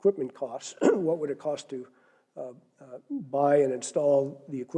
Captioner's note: cough